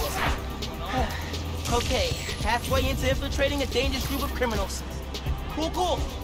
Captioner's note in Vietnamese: Thở dài